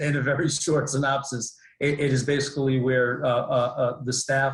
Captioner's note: laughs